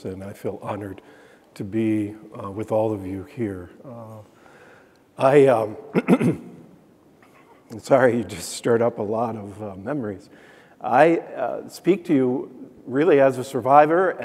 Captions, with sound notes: and I feel honored to be with all of you here. I (clearing throat), I'm sorry, you just stirred up a lot of memories. I speak to you, really, as a survivor,